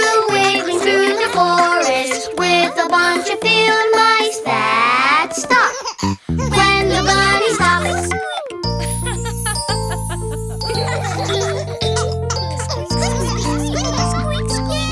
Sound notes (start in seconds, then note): 8.7 kids chuckling; 8.8 teacher chuckling